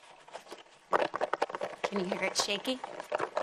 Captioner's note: foil balls rattling